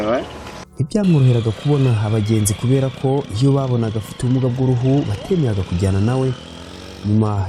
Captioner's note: speaking in Kinyarwanda